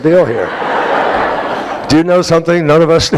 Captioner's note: laughter